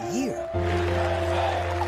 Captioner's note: cheers